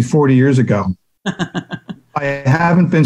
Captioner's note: chuckles